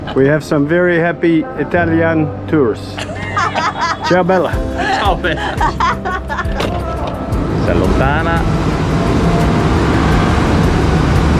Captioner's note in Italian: risate